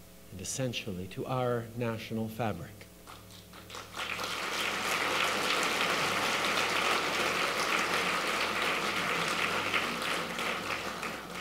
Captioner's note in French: Applaudissements